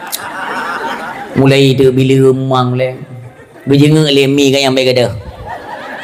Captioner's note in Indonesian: tertawa